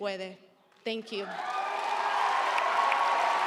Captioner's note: audience cheering; audience applauding; audience cheering